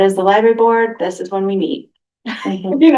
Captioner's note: laughter